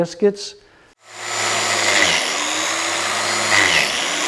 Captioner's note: machine drills